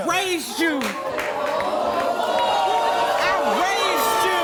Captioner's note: audience shouting